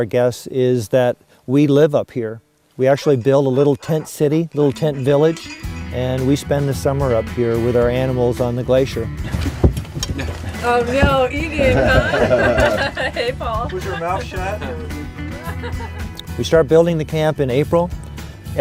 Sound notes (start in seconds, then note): 12.6 laughs; 15.7 laughs